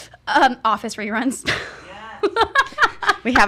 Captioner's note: laughs